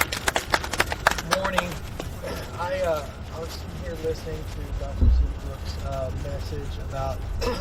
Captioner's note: audience clapping